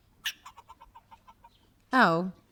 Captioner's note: squirrel squeaks